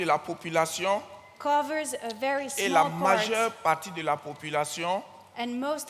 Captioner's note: continues in French; continues in French